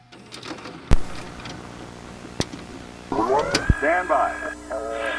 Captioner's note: static buzzing